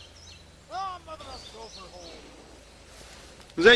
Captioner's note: indistinct yelling